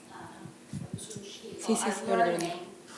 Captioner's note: speaking italian